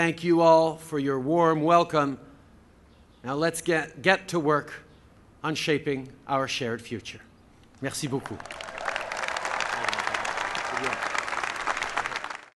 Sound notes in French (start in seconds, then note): 8.0 Acclamations et applaudissements